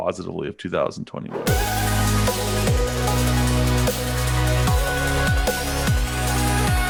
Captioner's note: air whooshing; bright upbeat music